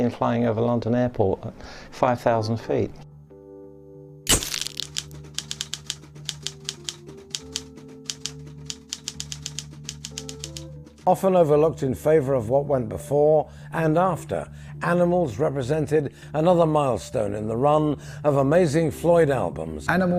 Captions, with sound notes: And somehow or other, it managed to escape and the pig flew off over London. It was last seen flying over London Airport, 5000 feet. [typewriter clacking] Often overlooked in favor of what went before and after,